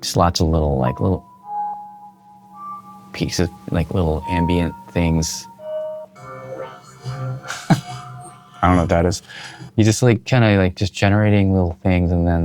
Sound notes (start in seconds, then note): 6.3 electronic warbling